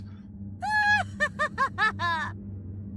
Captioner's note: Gabriella laughs